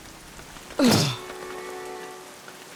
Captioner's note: grunting